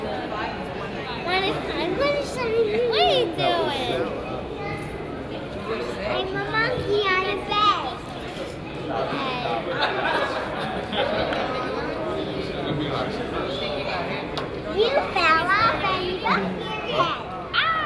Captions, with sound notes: - When is time, when is time. - What are you doing? - I'm a monkey on his back! (crowd laughs) You fell off and bumped your head.